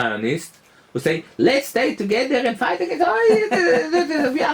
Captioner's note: laughter